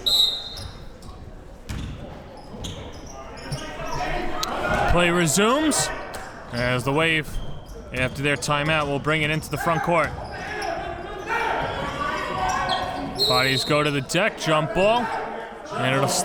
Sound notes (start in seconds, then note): 0.0 whistle blows; 13.1 whistle blows